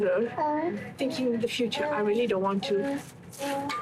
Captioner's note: whisper